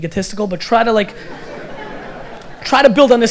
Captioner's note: audience laughter